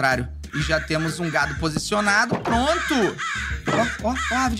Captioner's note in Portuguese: som de aves